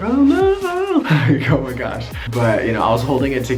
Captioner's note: laughs